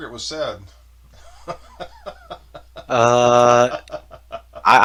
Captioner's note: laughing